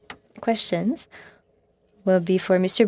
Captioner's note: speaking French